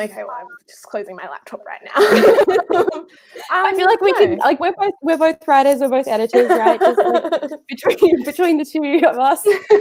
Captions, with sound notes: - I feel like just closing my laptop right now. (laughing) - I feel like we're both writers. We're both editors, right? (laughing) Between the two of us.